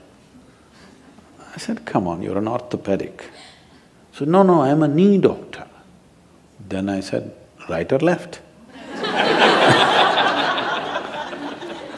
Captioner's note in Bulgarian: смях